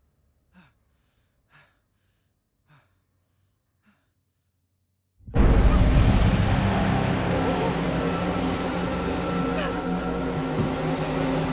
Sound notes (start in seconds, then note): 5.3 sinister music plays; 7.3 miles whimpering